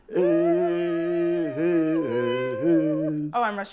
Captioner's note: both vocalizing